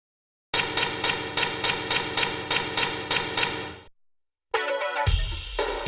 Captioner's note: loud typewriter keys typing